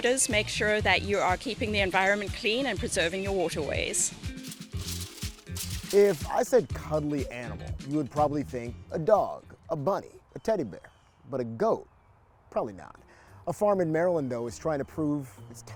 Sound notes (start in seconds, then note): 4.4 paper crumpling